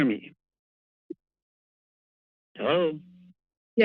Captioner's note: pause